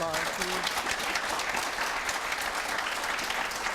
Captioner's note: audience claps